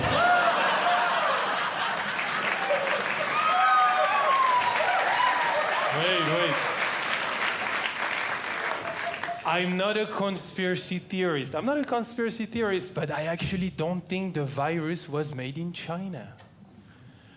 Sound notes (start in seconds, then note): 0.0 audience Laughing; 3.9 audience Cheering; 7.1 audience Cheering